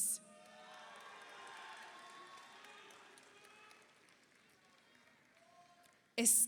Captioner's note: audience cheers; audience applauds